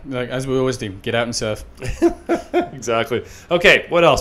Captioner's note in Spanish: laughing